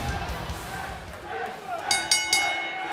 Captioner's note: bell ringing; crowd cheering